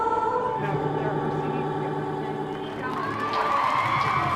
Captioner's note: music skipping; cheering and applause